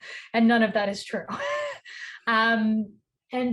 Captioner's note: chuckles